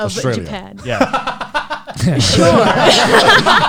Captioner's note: laughs